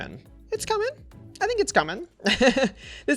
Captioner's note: laughs